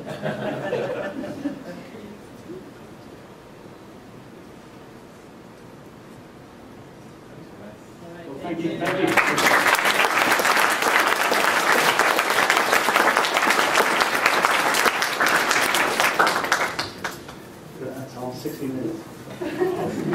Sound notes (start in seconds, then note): 0.0 laughter; 8.8 applause